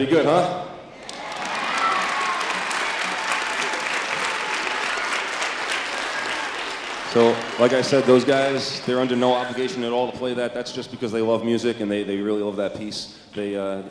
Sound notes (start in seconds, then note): 2.1 applause